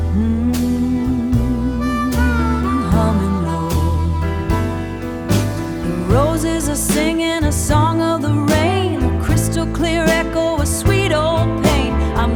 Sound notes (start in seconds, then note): 2.9 mmm, humming; 2.9 mmm, humming low